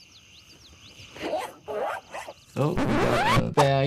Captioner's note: zipper buzzing